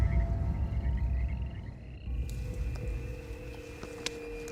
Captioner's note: frogs chirping; squeaky whistle